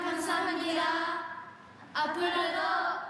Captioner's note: speaking Japanese